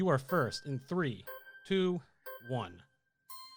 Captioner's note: melodic timer